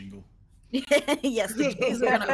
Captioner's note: person laughing